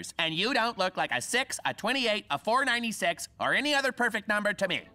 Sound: none

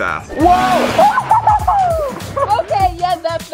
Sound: laughing

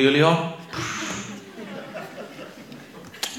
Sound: laughter

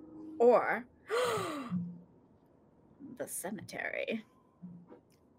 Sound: gasping

